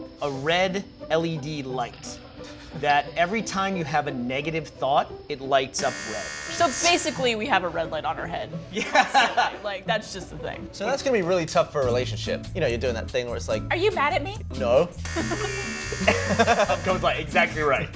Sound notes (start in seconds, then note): 8.7 laughing; 15.0 buzz